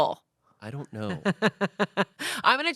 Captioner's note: Amanda laughs